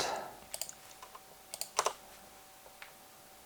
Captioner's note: keyboard clicking